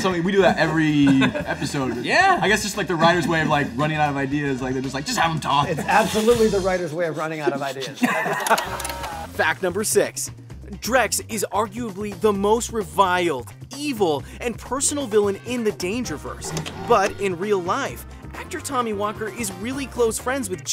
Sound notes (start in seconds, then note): 7.5 laughing